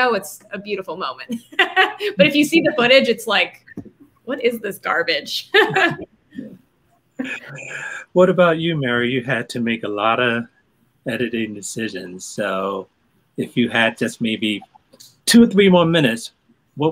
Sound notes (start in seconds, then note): 1.4 laughing; 5.4 laughing